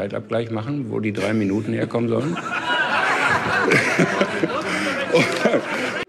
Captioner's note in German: Gelächter